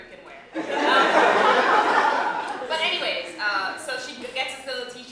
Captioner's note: laughter